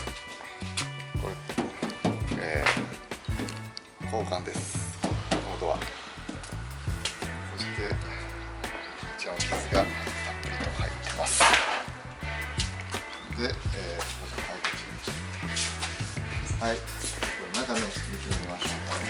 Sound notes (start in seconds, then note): 11.2 scratches